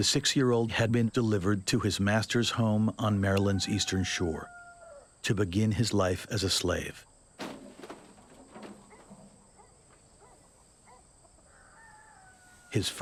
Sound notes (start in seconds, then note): 7.4 loud banging; 10.2 dog barking